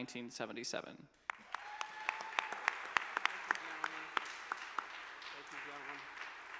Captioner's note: audience cheers and applause